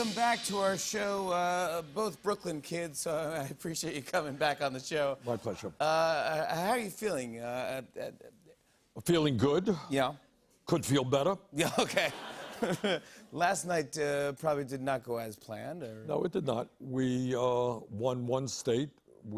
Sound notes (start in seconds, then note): 12.2 light laughter